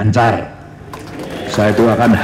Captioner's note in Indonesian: tepuk tangan